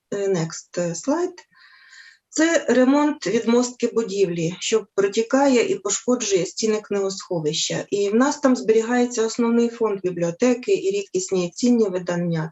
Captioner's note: foreign Language